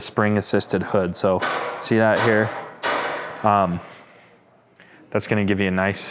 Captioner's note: clangs